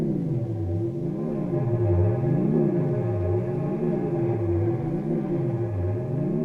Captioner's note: none